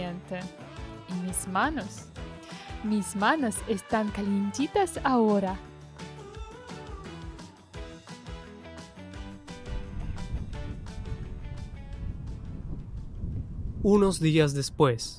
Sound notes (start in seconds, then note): 5.9 wind sounds